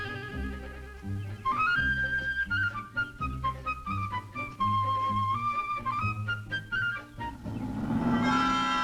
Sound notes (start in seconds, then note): 7.7 growl